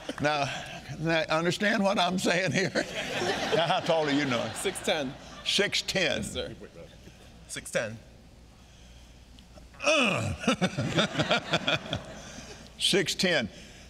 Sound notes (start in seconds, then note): 2.8 audience laughing; 9.8 Kenneth clears throat and chuckles